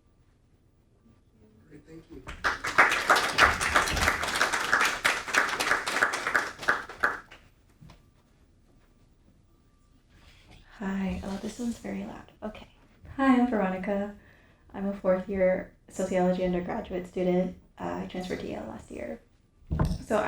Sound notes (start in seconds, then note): 2.1 audience applauding